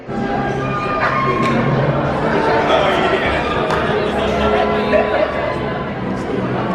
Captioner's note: excited chattering